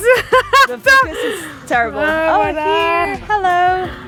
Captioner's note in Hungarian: nevetés; zihálás